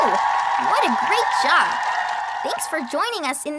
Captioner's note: audience cheering